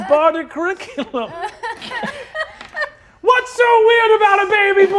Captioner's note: laughing